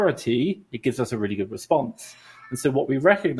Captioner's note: exhales